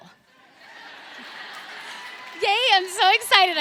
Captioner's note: audience laughs